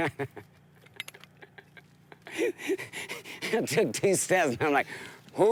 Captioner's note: laughing